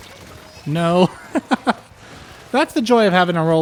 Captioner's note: laughter